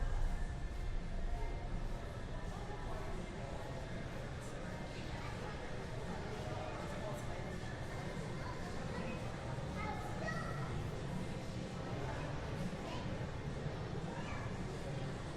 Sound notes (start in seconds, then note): 5.5 people talking in store